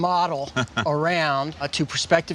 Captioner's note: chuckles